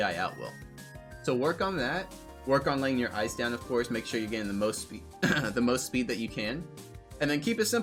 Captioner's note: clears throat